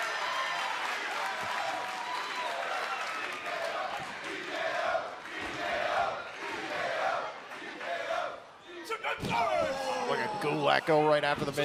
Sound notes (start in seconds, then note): 0.0 cheers and applause; 2.4 fans chanting